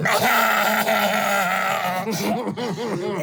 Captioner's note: laughing